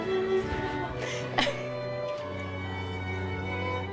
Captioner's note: chuckling